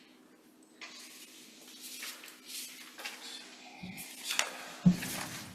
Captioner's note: papers rustling